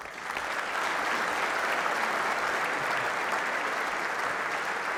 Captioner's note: applause